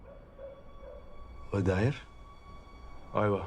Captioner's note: man speaks Arabic